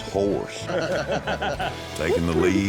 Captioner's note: laughter